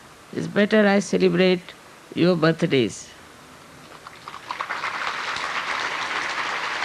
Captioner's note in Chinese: 掌聲